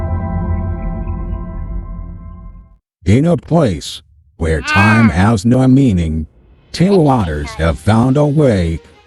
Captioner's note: voiceover